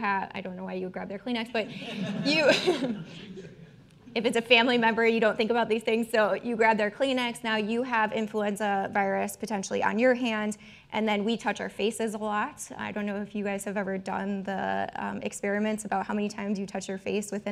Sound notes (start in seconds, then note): 1.7 all chuckling